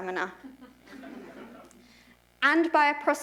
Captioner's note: laughter